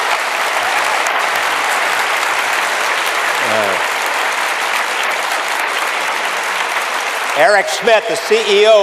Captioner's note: applause